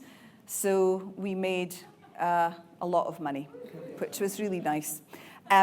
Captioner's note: audience cheering